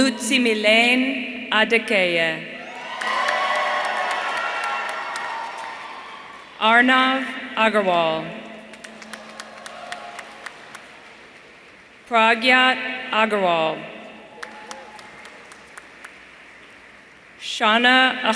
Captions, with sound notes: Olutimilehin Adekeye. (audience cheering) Arnav Aggarwal. (audience applauding) Pragyat Agrawal. Shana Ahemole.